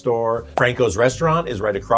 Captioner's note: graphic pops